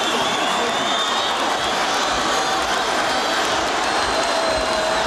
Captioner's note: audience cheering